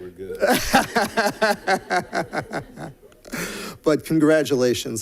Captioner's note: laughter